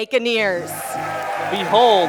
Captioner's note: crowd cheering